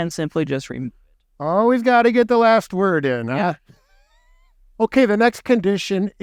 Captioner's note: laughing